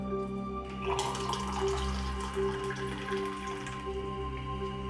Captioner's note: water pouring